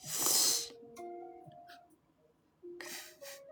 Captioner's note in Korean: 콧방귀